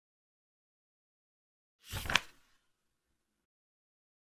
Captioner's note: page flip sound